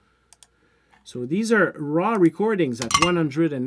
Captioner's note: metal clanks